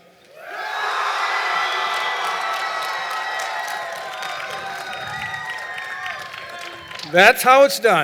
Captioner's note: cheering and Applause